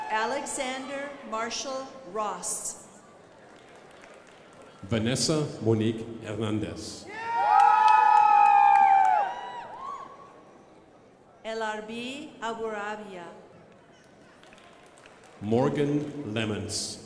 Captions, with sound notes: Alexander Marshall Rost. (crowd applauding) Vanessa Monique Ernendes. (crowd applauding) L.R.B. Aguravia. (crowd applauding) Morgan lemons.